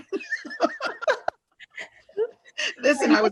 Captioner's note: all laugh